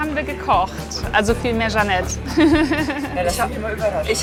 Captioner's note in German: lachend